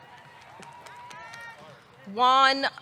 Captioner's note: audience cheering